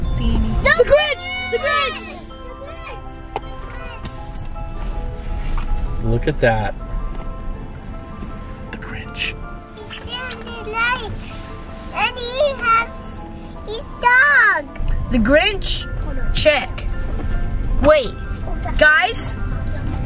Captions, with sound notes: - I don't see anything. - (kids yelling) THE GRINCH! THE GRINCH! - Look at that, the Grinch. - He's getting the lights, and he has his dog. - The Grinch, check. Wait, guys, we're done.